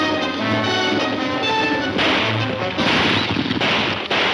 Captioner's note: gunfire pops